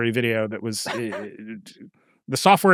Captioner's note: chuckles